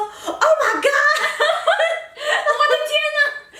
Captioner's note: laughter